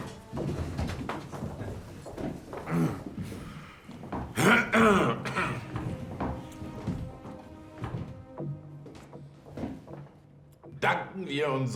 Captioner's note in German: räuspern